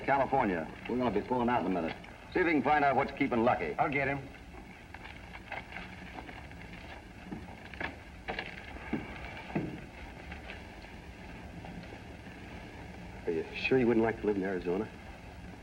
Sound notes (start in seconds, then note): none